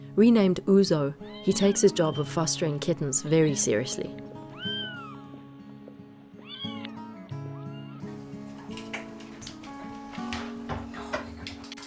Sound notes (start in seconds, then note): 4.4 kittens meowing